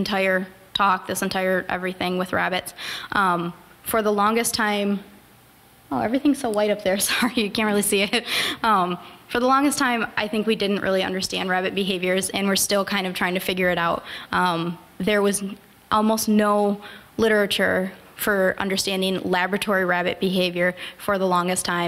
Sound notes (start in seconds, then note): 8.1 chuckle